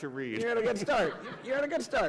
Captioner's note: laughter